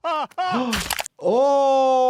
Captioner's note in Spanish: el doctor jadea